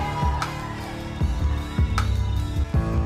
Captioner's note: crowd Boos